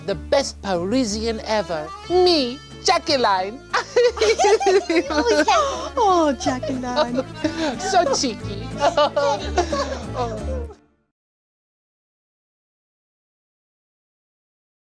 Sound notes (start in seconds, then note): 3.7 all laugh; 9.0 all chuckle